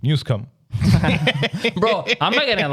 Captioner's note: laughing